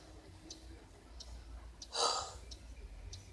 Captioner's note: sighs heavily